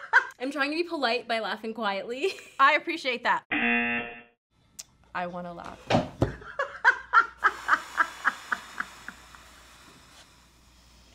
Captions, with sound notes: - I'm trying to be polite by laughing quietly. (chuckles) - I appreciate that. (buzzer) - I wanna laugh. - (man laughs) - (exhales shakily)